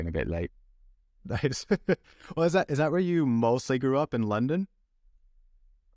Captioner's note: laughter